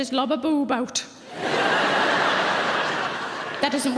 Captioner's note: audience laughs